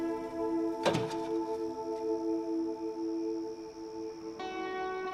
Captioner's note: birds chirping